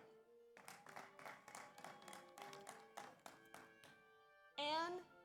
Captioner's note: audience applauds; audience cheers